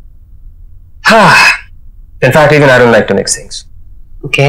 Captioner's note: Sighs